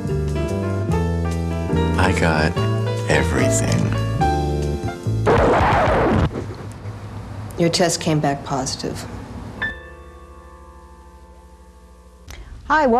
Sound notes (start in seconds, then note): 5.2 record scratching; 9.2 tense piano music